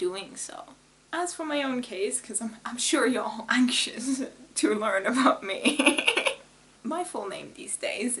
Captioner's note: laughs